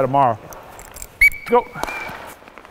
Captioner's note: whistle blows